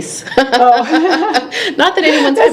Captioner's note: laughing